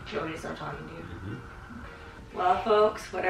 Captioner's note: mumbles in affirmation